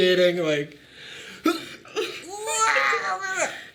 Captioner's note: grunts